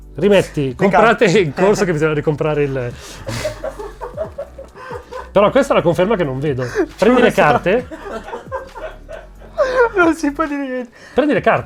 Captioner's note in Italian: risate fuoricampo; ancora risate fuoricampo